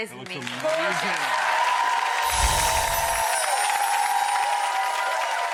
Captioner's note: audience cheering